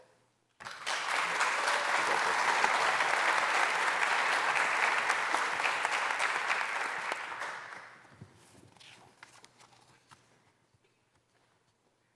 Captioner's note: applause